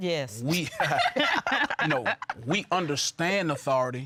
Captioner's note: laughter